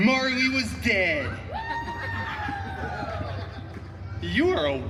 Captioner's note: guest cheering and chuckling